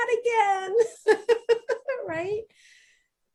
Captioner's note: laughing